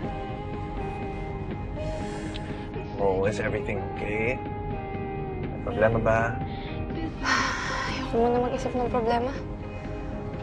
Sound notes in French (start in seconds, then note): 7.1 sighs deeply